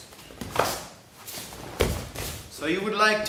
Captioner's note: mats thudding; arm thudding